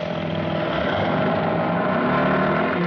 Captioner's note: engine starting